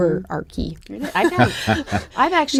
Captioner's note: laughter